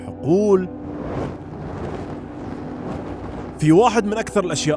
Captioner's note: burning Noises